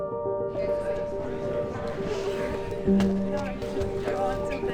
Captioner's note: people chattering